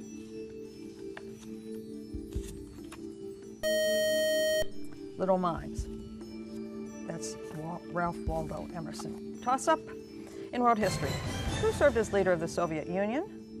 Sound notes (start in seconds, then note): 3.6 buzzer